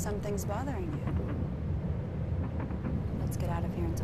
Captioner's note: clattering